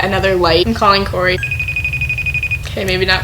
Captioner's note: ringing